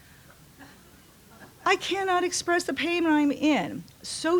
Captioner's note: laughter